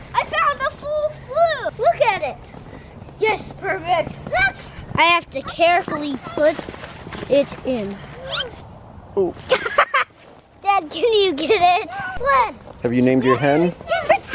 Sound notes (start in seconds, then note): 9.5 laughs